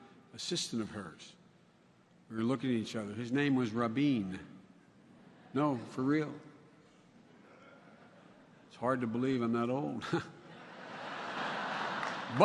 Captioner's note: laughter